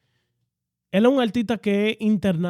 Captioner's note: speaking In Foreign Language